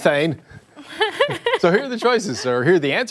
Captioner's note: laughter